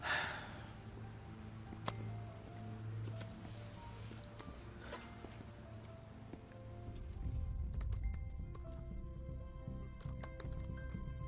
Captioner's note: sighs